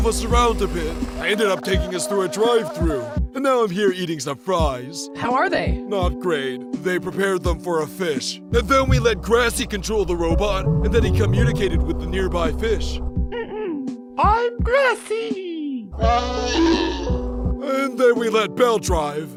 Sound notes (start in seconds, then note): 13.4 clears throat